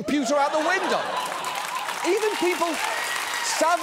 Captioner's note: audience laughs and applauds